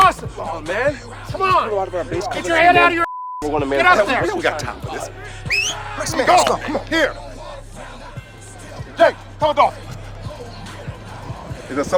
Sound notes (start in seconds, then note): 4.4 radar chattering; 5.2 whistles